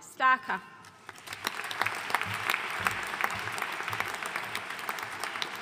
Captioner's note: audience applauding